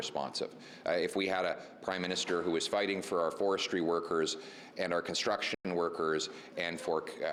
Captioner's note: speaking French